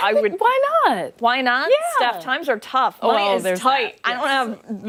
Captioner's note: laughter